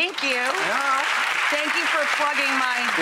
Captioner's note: applause